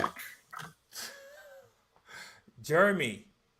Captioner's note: laughs